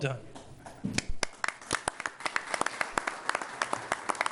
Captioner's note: applause